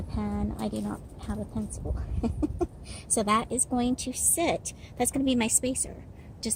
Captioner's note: laughing